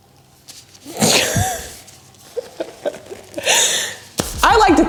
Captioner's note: laughing